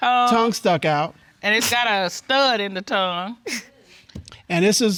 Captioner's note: chuckles